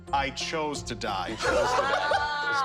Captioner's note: laughs